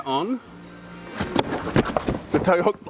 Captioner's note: climber thudding